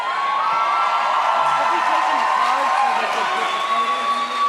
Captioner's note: audience cheers